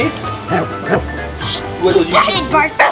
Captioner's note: Wiggles barks